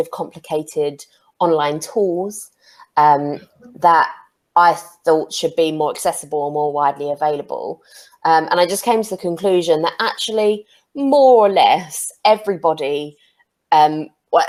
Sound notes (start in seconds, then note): none